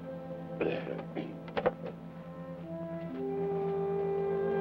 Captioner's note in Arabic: كارني يصفي حلقه